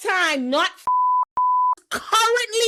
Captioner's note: beep